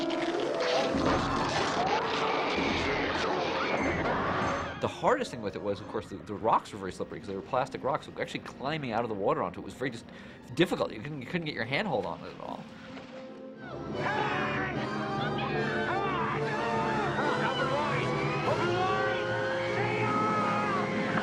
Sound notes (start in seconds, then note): 1.0 screaming